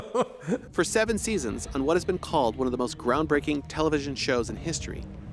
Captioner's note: laughs